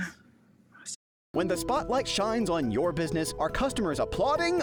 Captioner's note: voiceover